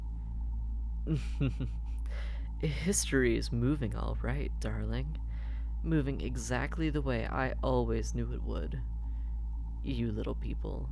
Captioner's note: laugh